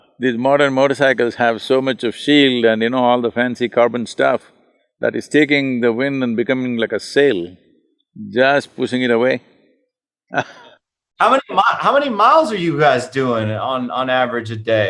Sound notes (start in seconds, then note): 10.3 both laugh